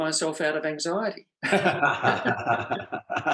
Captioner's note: both laugh